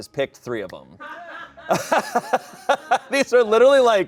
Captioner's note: audience laughing